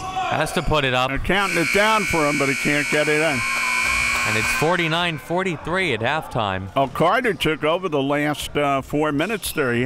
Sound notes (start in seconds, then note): 3.3 buzzer